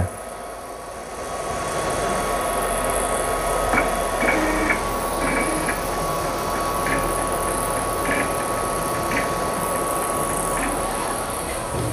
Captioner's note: printer machine noise